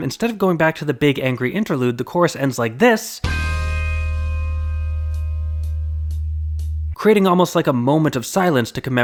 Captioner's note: bang